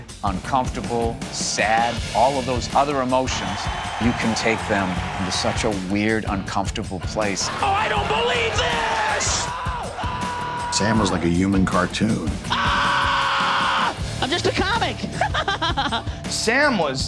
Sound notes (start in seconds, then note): 12.4 screaming; 15.0 laughing